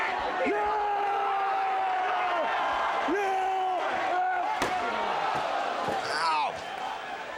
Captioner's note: applause